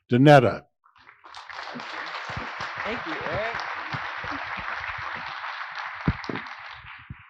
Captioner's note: applause